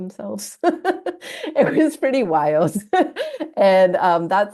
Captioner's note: chuckle